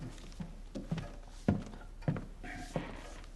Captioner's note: sound of footsteps